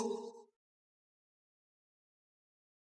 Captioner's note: silence